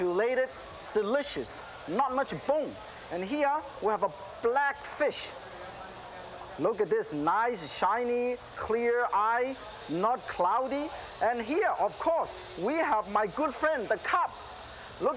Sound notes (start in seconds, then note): none